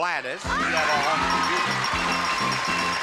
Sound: screams; bell rings; audience cheers; upbeat theme music

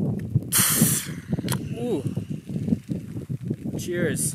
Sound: drink fizzes

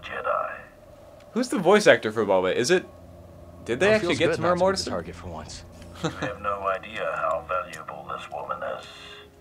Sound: laughter

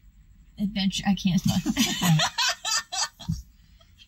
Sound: laughter

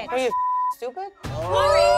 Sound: beep

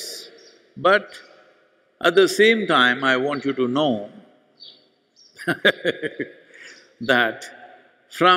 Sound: laughs

